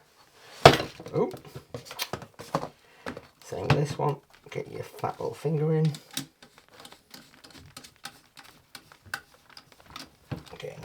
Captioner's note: tut